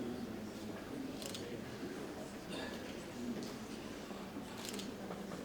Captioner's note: camera clicks